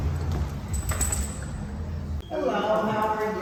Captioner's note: dog collar rattles